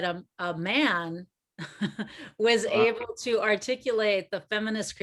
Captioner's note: chuckles